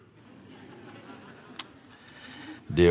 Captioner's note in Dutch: gelach